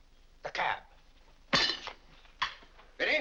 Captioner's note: silverware clangs